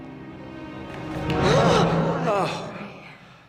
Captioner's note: Dr. Ramos & Harvey gasping